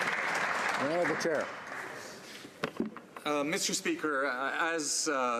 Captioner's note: some Applause